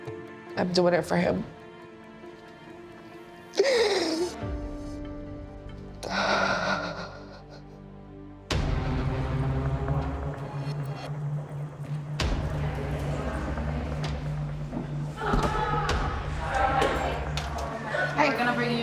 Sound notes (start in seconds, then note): 3.5 sobbing; 8.1 dramatic music; 13.3 inmates chattering